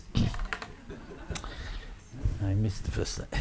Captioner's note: audience laughing